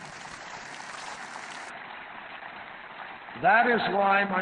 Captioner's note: applause